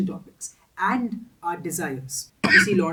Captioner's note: cough incoming